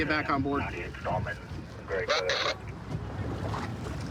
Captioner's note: radio communication